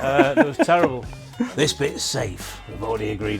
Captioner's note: laughs